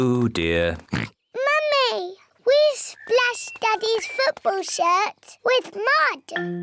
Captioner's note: oinks